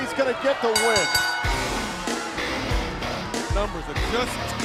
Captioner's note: bell ringing